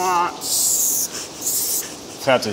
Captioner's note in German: Zischen